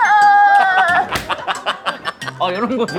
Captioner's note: laughing